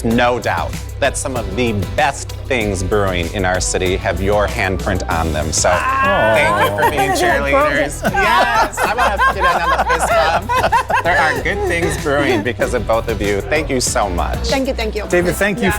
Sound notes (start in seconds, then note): 10.5 laughing; 13.3 chuckles